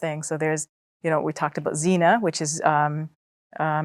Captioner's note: speaks Arabic